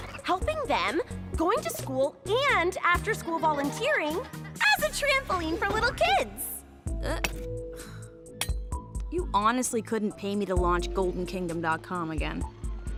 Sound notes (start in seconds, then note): 8.3 grunting